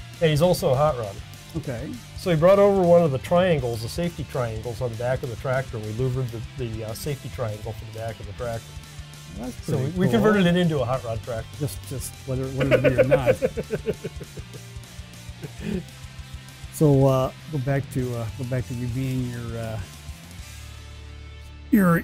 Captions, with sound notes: He's also a Hot rod. So he brought over one of the triangles the safety triangles or the back of the tractor. Were louvered to the safety triangle for back of the BRAC. We converted it into a Hot rod tractor. - Just wondering what it will be or not. (laughing) So back to go back you're being, hot rodding, cheerleader guy